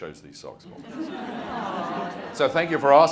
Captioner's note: audience chattering